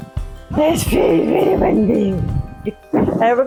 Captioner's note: laughter